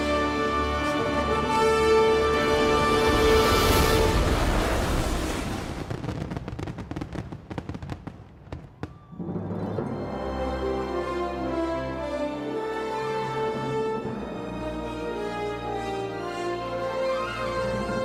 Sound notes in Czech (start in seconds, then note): 1.8 dramatická hudba pokračuje; 5.5 bouchání ohňostrojů; 8.8 jásající publikum; 10.0 dramatická hudba